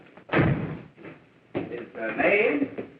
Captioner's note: door slams